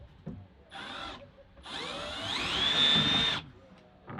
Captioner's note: drill whirring